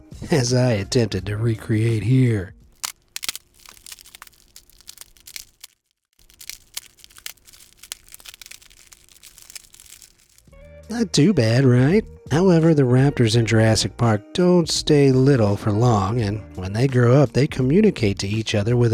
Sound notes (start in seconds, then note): 2.7 cone crackles